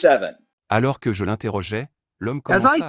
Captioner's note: speaking French